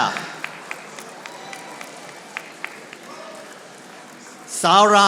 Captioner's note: audience applauding